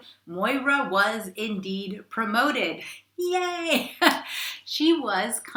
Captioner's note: laughs